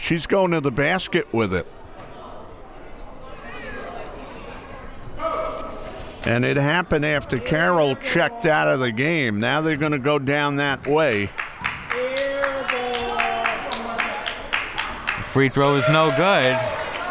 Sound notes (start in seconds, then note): 2.6 crowd members talking; 10.6 crowd members clapping